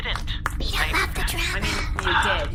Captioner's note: whispering